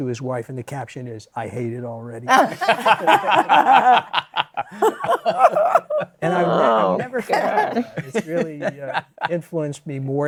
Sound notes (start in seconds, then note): 2.3 laughter